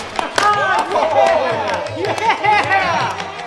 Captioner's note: guys cheering in surprise